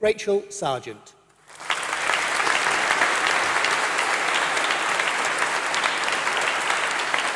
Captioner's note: applause